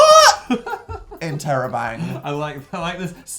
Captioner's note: giggles